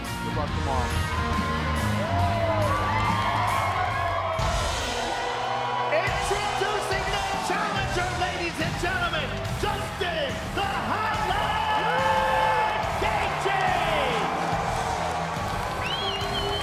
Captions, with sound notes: (crowd cheering) Introducing the challenger ladies and gentlemen, Justin Gaethje. (crowd cheering)